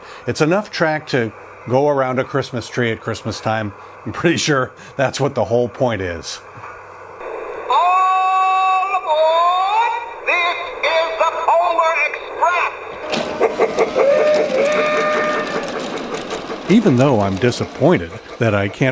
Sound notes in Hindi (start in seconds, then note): 13.0 भाप ट्रेन चिंगिंग और सीटी उड़ाने की आवाज